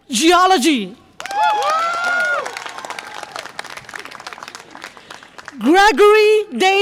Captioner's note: audience applause and cheer